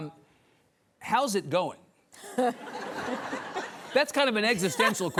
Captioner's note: audience laughs